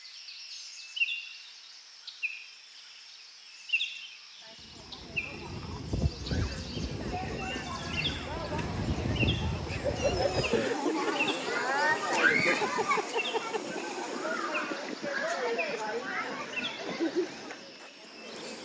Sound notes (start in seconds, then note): 11.0 people’s chatting in the background